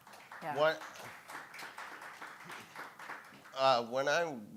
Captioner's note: audience applauding